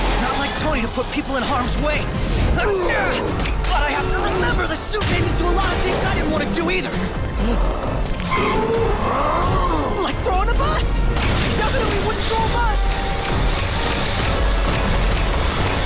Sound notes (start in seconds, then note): 7.2 roars